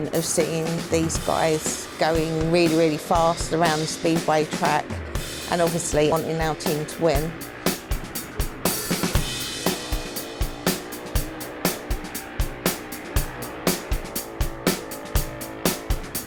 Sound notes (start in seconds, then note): 7.7 bikes droning; 7.7 lively music